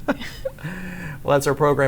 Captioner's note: laughs